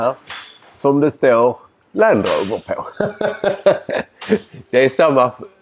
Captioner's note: laughs